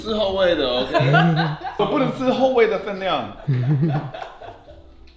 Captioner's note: Laughs